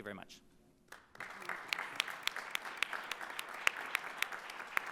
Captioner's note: audience applauding